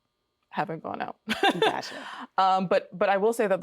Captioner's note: laughing